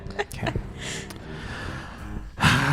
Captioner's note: laughs